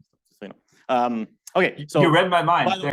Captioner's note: faintly speaking